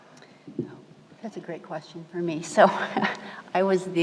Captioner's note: laughs